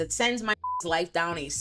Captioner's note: beep